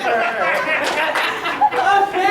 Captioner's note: audience laughter